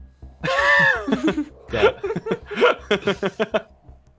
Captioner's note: everyone laughs